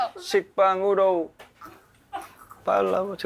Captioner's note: drinking